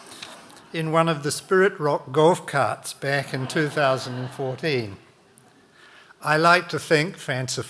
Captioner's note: audience laughing; audience lauging